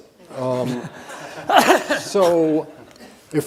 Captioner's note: audience laughing